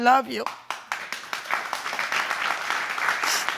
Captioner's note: applause